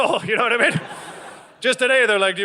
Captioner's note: audience laughing